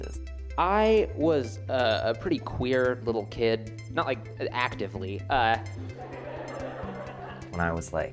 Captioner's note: laughter